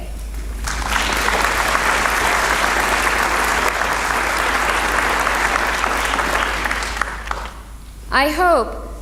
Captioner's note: applause